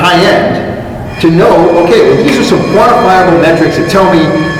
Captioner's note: ringing alarm starts in background